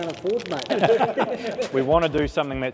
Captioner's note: mechanics laugh